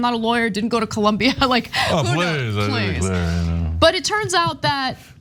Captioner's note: laugh